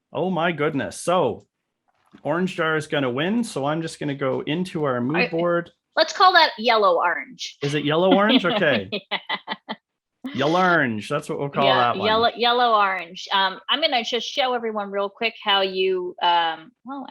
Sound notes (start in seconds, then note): 7.6 laughing